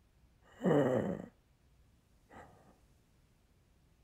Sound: shallow breath

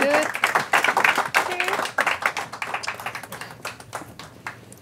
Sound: audience clapping

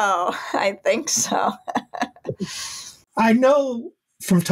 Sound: laughs

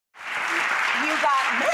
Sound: audience applause

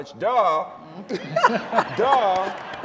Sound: laughter

